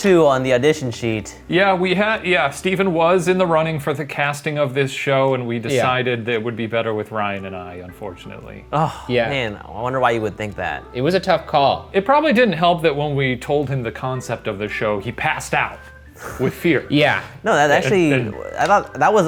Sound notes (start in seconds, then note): 8.7 sighs